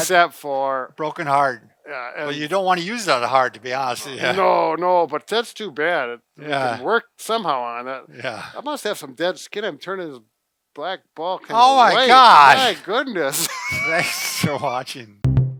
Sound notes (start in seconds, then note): 13.3 laughs